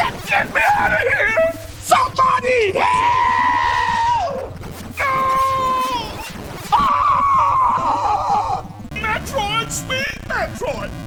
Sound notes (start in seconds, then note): 6.7 screaming